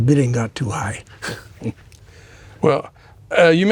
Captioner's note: chuckling